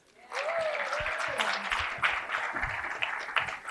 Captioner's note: applause